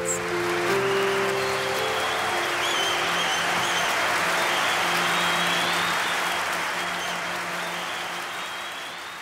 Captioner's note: cheering